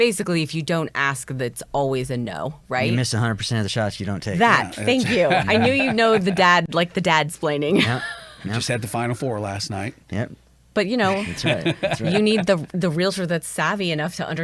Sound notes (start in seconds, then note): 7.7 chuckles